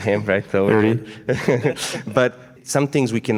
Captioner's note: laughing